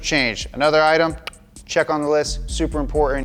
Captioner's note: tongue clicks